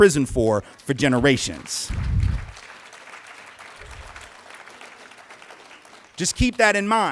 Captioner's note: applause